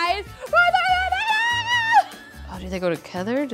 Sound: cheering

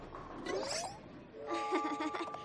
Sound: chuckles nervously

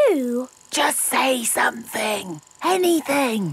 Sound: camera whirring; whispering

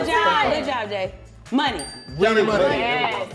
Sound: bell dings

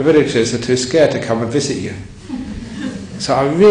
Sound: laughter

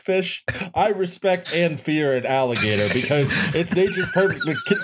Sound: laughter

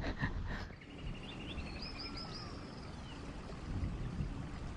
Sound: laughs; birds chirping

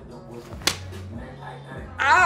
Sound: slap

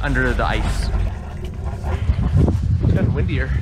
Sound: water splashes

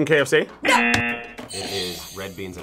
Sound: buzzer rings; buzzer

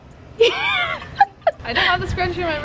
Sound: laughing

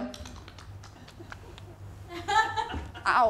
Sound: makes kissing sounds

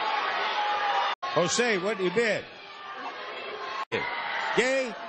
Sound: crowd shouting

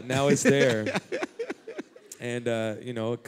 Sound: laughter

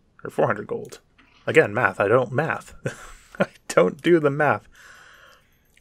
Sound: laugh

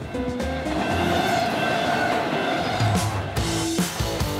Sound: car humming; train roaring; upbeat music

